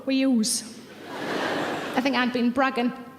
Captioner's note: audience laughs